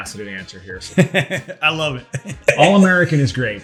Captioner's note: laughs